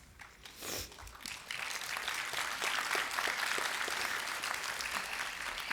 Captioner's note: applause